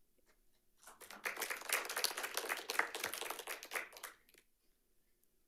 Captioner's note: audience applauding